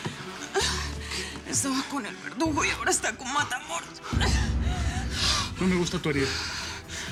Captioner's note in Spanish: Quejido